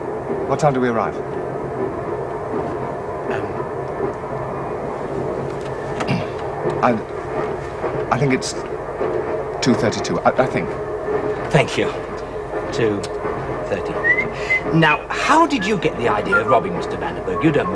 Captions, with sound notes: What time do we arrive? Erm... (Clears throat) l...l think it's...2:32. l-l think. Thank you. 2:32. Now, how did you get the idea of robbing Mr Van Der Berg?